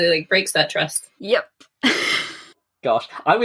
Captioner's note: laughs